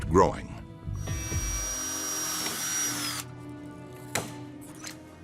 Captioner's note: drill whirring